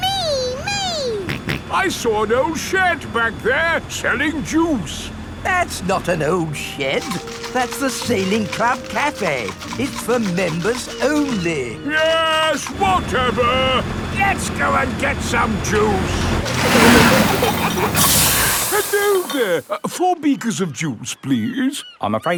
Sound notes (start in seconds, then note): 1.3 snorts; 16.1 air hisses; 16.5 peppa and george giggling